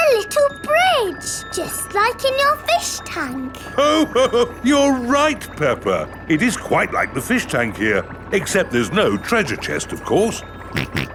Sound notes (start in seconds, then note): 3.6 laughs